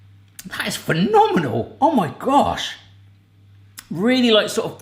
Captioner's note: none